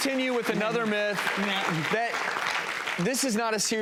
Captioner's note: audience applause